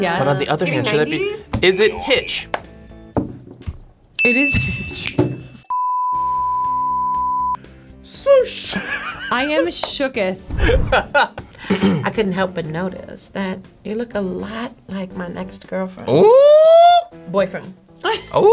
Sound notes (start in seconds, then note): 4.2 bell dinging; 5.6 snapping fingers; 5.6 beep; 10.6 laughing